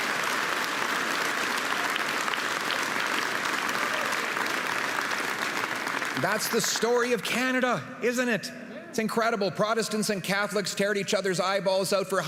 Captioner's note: applause